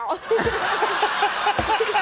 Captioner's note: Conan laughs; audience laughs